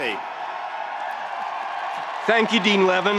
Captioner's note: spectators cheering